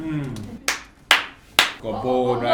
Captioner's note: claps